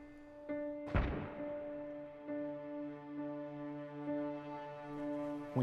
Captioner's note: distant gunshot echoing